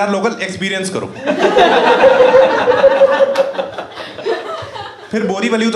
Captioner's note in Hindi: हँसना